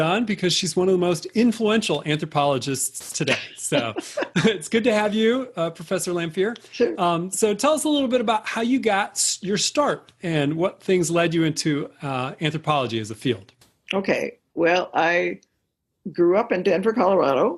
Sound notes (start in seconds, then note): 3.2 laughter